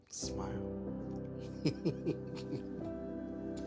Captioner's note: laughter